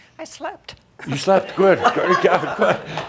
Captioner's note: laughter